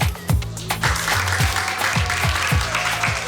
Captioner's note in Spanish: Aplausos